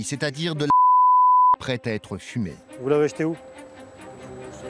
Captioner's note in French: bip